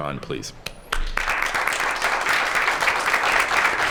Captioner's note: applause